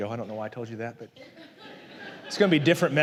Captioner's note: la congregación se ríe